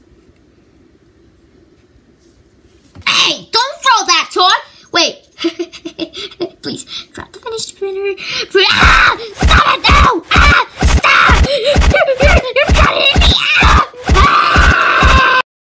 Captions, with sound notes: HEY! Don't throw that toy! Wait! (laughing quietly) Please, drop the fidget spinner. (screams) STOP IT! STOP! YOU'RE CUTTING ME OUT!